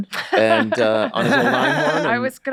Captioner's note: Charlie laughs; laughing